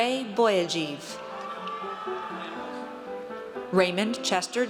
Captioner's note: audience cheers